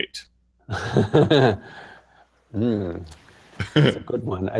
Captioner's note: laughter